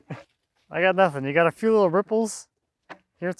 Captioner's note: chuckling